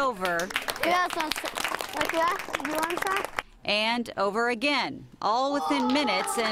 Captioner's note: applause